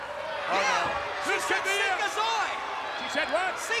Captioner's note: speaking in foreign language